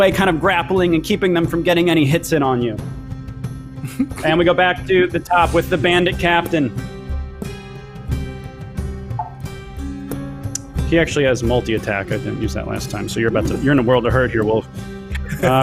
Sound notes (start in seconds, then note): 3.8 chuckles; 6.9 dramatic instrumental music; 15.1 laughs